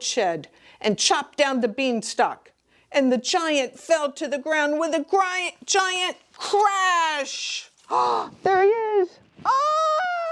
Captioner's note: screams